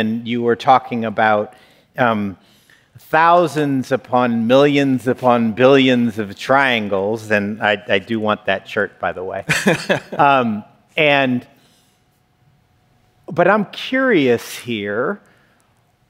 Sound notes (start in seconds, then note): 9.5 laughs